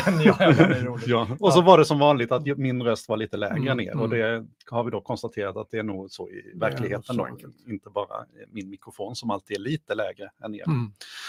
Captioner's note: speaking in Swedish